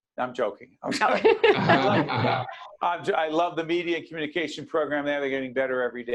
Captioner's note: all laughing